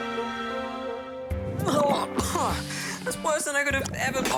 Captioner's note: gags, coughs